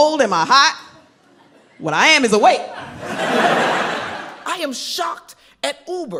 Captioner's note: crowd laughs